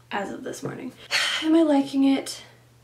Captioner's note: sighs